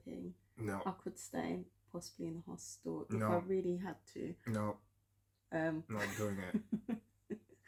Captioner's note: laughter